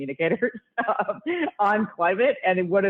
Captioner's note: laughs